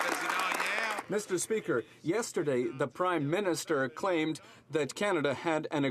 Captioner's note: some Applause